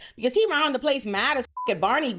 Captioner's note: beep